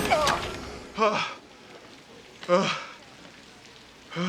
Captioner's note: breathing heavily